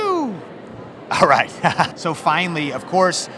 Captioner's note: laughs